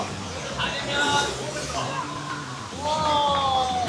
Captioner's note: swoosh